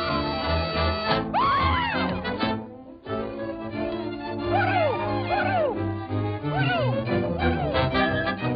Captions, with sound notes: (scream) Pluto! Pluto! Pluto!